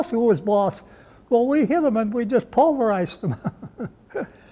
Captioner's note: laughs